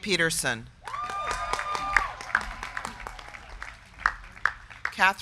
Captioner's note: crowd cheering; crowd clapping